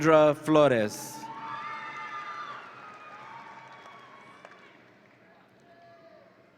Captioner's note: audience applauds and cheers